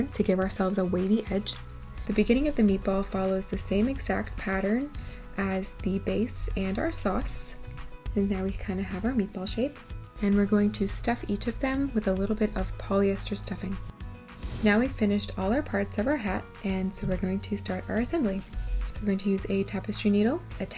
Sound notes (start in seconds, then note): 14.2 air whooshing